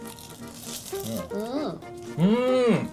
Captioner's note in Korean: 파사삭